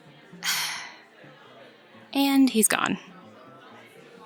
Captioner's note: sigh